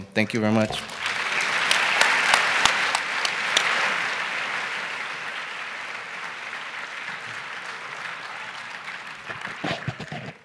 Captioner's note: applause